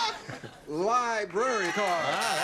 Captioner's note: laughter